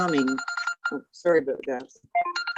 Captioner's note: phone rings